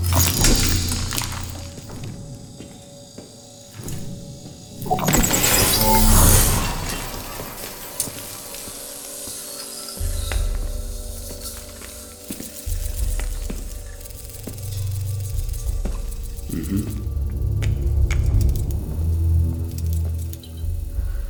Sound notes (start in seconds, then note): 0.1 clattering; 3.8 materializing sound; 13.6 slow footsteps; 18.3 clicking